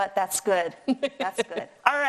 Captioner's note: laughing